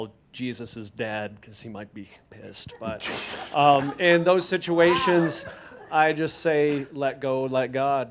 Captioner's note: a few chuckles